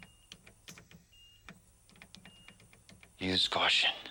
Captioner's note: machines beeping